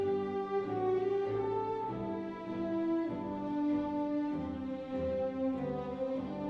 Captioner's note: none